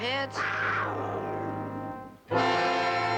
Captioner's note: snarling